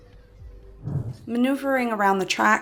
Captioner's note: whoosh